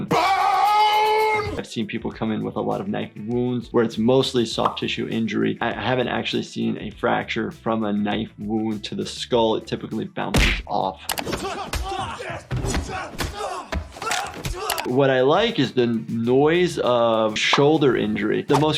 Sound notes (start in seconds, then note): 11.3 men yelling; 14.0 bone breaking